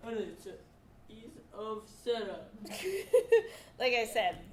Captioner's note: laughs